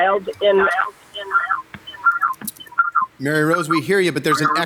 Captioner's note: call echoes